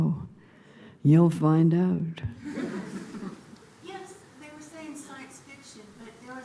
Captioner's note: subdued laughter